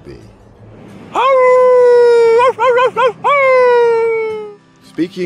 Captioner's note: howling